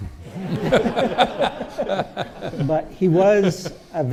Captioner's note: audience laughing